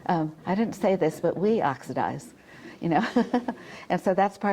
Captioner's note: chuckles